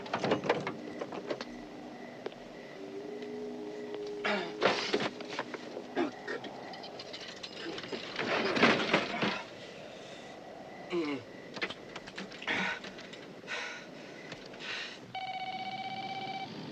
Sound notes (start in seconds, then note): 0.1 car door opens; 8.0 phone booth door slams; 15.1 phone ringing